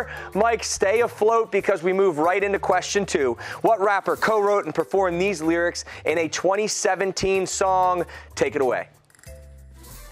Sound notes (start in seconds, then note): none